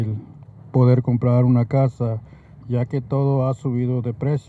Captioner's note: speaking Spanish